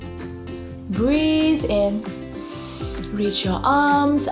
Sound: breathes in deeply

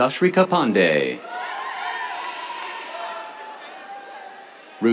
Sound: cheers

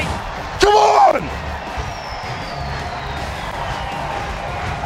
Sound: crowd

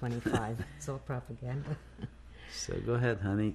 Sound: laughs

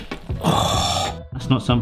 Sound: gasping

